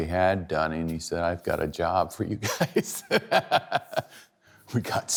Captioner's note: laughs